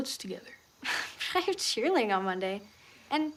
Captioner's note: scoffs